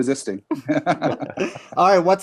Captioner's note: all laugh